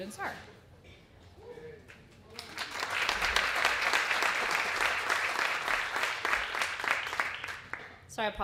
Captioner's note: applause